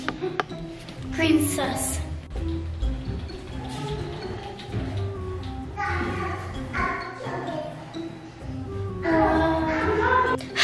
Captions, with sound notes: - Green's suss. (keys clicking)